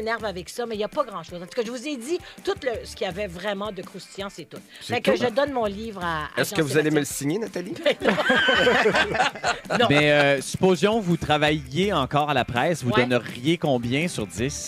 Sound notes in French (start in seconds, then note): 7.7 rires